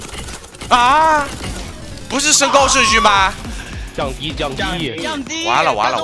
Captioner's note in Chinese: 大笑